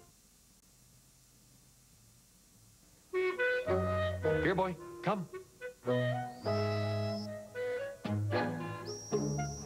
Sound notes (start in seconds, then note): 5.9 blows dog whistle faintly audible to humans; 8.6 blows whistle again